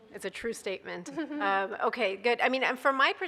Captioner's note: laughs